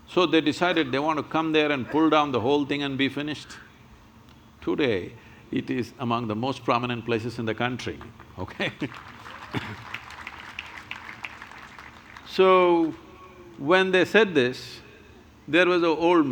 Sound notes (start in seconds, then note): 8.5 laughs; 11.1 applause